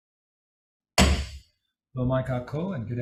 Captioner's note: gavel bangs